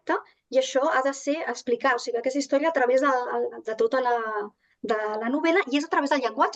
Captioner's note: continues speaking in Catalan